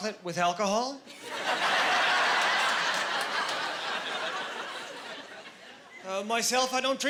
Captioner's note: laughing